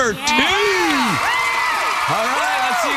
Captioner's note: cheering